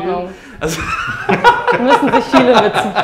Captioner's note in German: Lachen